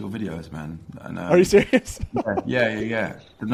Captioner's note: laughs